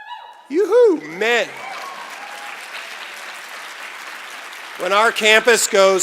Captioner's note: cheering and Applause